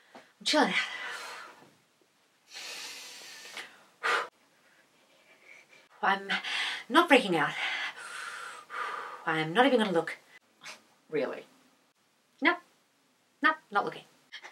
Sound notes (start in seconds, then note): 2.4 deep breathing; 4.4 trying to breathe